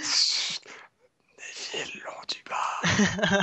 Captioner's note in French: rires